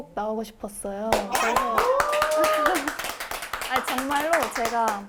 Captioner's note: everyone applauds!